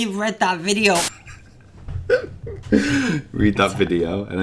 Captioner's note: chuckles